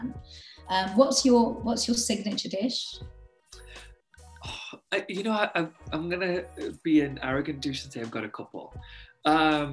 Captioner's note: sigh